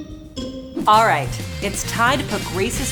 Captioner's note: playful music; air whooshing